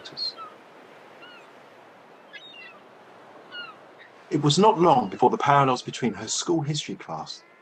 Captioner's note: sound effect: water, seagulls